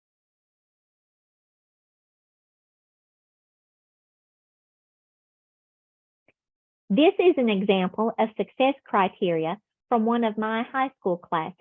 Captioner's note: silence